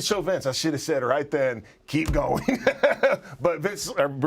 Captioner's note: laugh